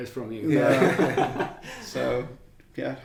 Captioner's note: laughing